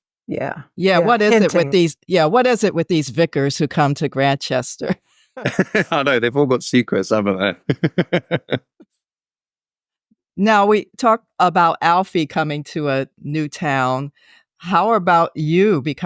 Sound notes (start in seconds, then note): 5.4 laughing